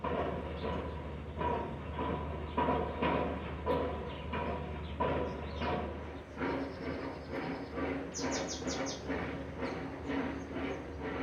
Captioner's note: loud industrial hammering